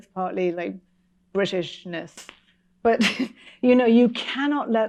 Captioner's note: chuckles